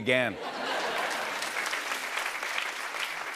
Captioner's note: laughter and applause